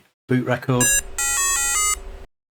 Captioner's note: beeping